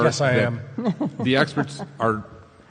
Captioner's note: laughs